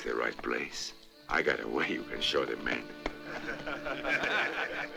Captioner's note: men laughing